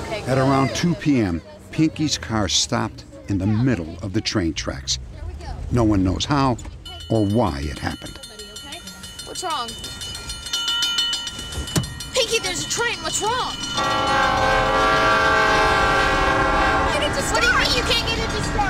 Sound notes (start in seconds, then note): 8.0 train crossing bells ringing; 13.7 train horn blowing